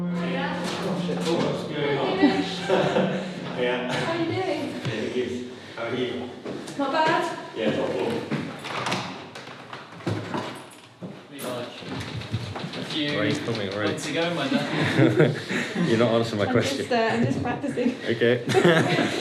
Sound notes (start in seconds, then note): 8.6 mechanical clunk of lock turning - door opens; 12.8 muffled chatter